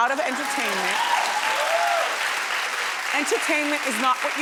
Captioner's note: audience cheering